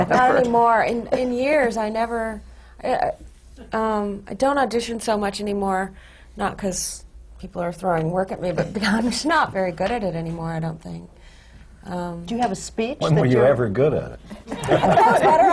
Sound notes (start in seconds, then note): 8.9 laughs; 14.4 laughter